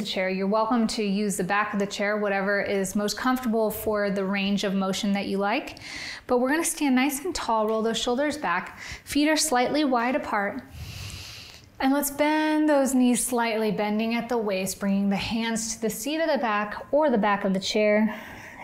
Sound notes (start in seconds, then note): 10.7 inhales; 18.1 exhales